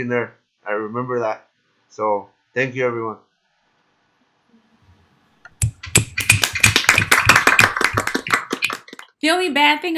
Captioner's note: applause